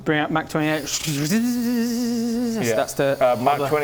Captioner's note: fizzlespark hovering noise